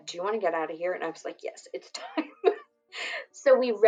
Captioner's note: laughs